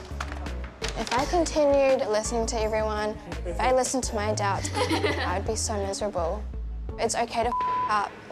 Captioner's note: laughs